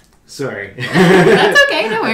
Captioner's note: laughs